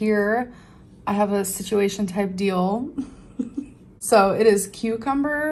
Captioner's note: laughs